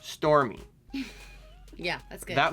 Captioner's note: giggles